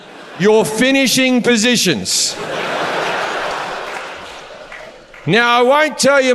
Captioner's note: audience laughs